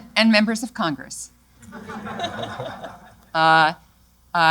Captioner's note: laughter